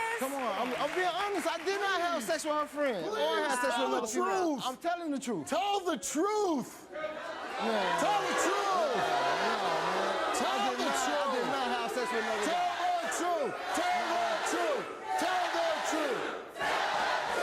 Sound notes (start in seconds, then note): 7.3 audience boo's